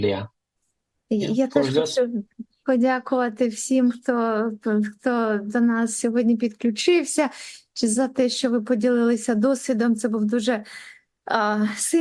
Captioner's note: foreign language